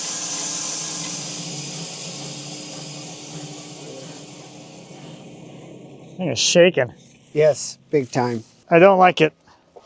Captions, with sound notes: (saw buzzing continues) - The thing is shaking. - Yes, big time. - I don't like it.